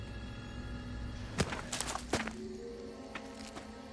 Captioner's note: cackling